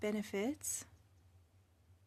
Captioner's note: speaking French